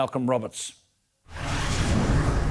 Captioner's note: whooshing